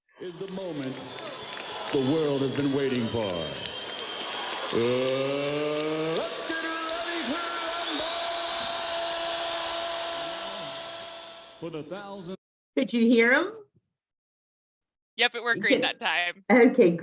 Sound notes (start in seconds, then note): 9.3 audience cheering